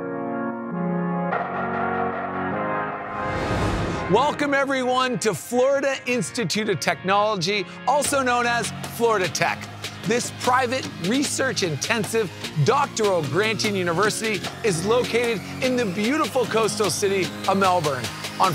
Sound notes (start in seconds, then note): 0.0 inspiring music; 3.1 air swooshing